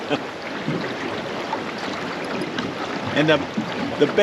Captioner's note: water flowing; chuckling